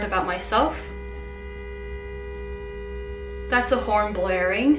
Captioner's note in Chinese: 喇叭聲